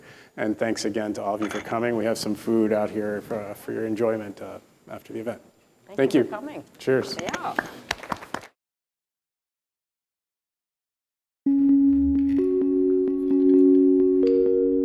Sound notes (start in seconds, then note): 7.0 attendees clapping; 11.3 bright chiming music